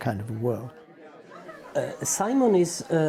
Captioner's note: people chatting